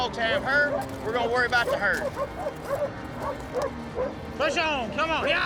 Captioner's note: dogs barking